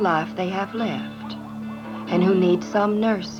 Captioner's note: dogs barking